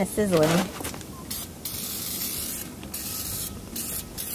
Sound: can sprays

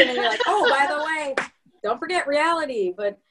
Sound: clapping

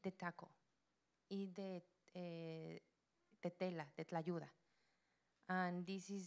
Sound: Spanish language

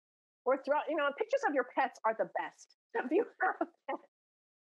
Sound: laughing

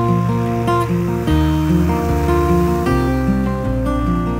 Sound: plane buzzing

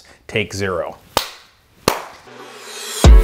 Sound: clapping; hip hop music

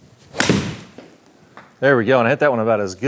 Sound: golf club slamming

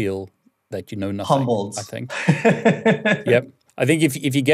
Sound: laughing

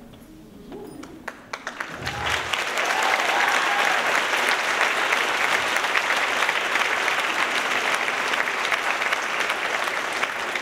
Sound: applause

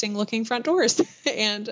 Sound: laughter

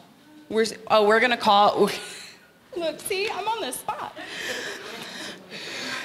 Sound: chuckle

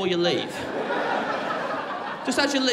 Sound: crowd laughing

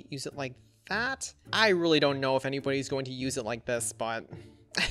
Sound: laughs

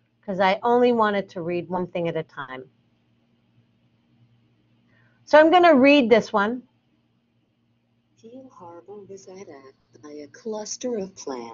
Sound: computer reads

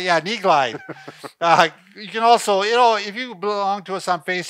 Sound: chuckling

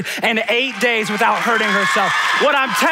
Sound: audience cheering

